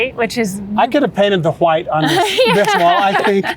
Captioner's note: both laughing; laughing